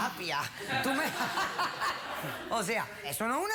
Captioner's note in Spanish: risas